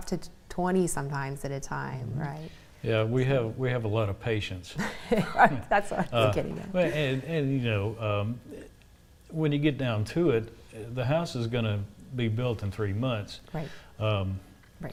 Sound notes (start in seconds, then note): 4.8 laughs